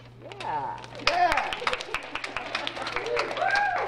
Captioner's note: applause